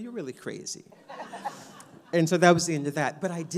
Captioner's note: audience laughs